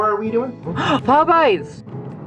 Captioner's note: gasp